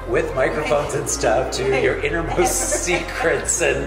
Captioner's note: laughing